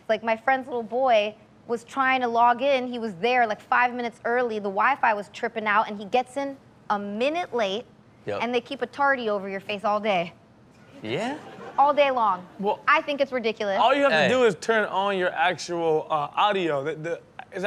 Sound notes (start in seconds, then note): 11.0 audience laughing